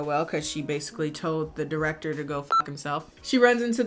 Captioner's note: beep